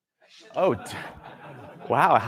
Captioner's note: laughter